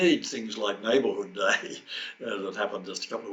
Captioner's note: chuckles